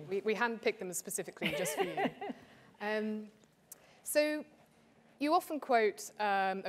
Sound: laugh

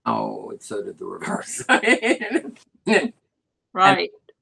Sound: laughter

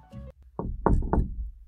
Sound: knock

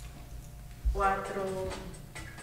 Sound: spanish

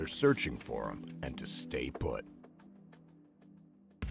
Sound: voiceover

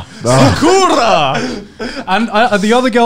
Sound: laughing loudly

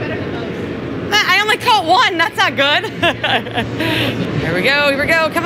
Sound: laughs

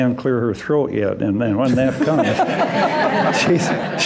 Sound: laughter

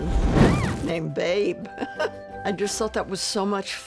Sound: chuckle

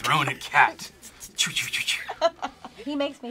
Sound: laughs

